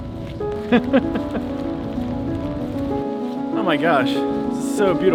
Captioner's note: laughs